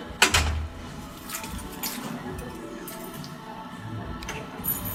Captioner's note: keys jingle